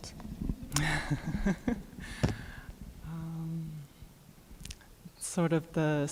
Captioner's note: questioner laughter